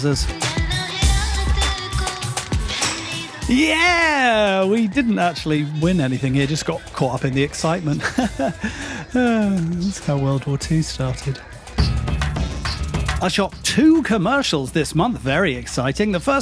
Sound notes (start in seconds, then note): 8.2 laughs